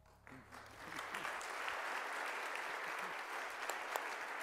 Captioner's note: audience applauding